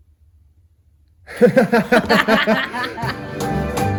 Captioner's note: laugh